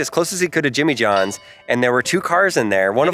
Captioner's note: bell chimes